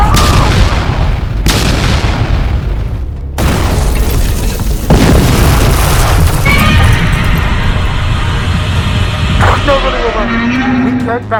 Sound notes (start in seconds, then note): 0.0 explosions; 6.4 Godzilla Roars